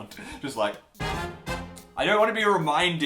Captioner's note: horns tooting